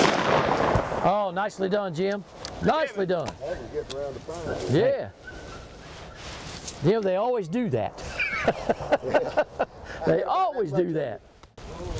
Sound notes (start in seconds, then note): 0.0 gunshots firing; 8.0 laughter